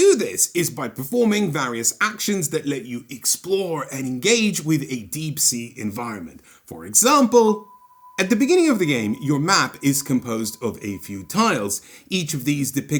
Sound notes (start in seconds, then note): 7.1 sonar bong